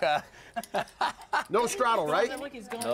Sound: laugh

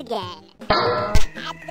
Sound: bonk

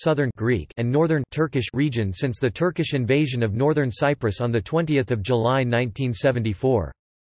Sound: Turkish

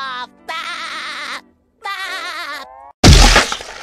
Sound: Spongebob Laughs

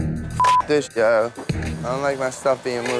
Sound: beep

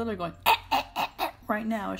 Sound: gagging noises

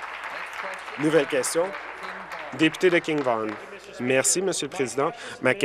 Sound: applause

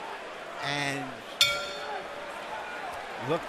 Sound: bell dings

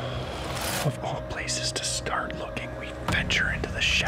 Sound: whispering

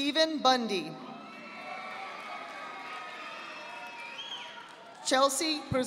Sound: audience applauding

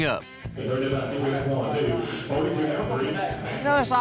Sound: auctioneer speaking fast

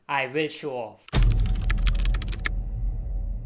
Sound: intense typing noise

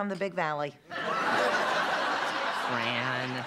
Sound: laughter

